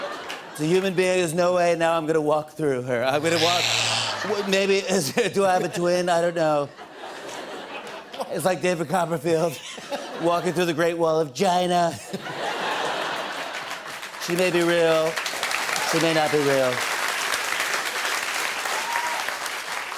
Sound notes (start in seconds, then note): 6.6 laughter; 12.2 laughter and applause